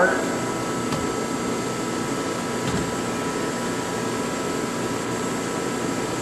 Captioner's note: machine whirring